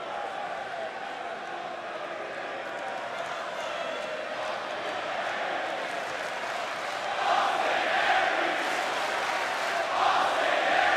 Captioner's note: crowd cheering